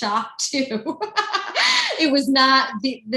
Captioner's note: laughing